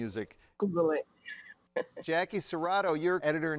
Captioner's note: chuckles